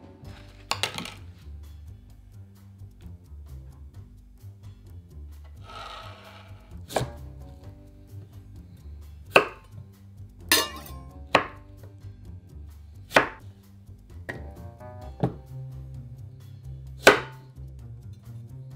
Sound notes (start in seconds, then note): 0.8 clank